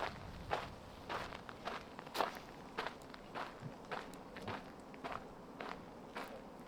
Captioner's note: wind